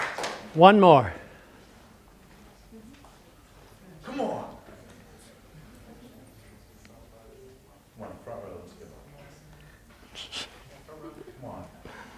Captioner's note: audience chatter